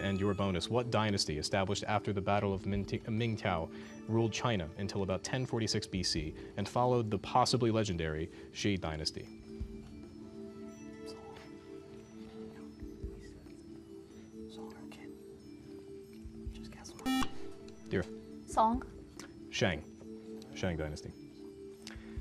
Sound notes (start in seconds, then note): 9.7 whispering; 17.0 buzzer